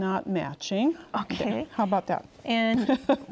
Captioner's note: laughs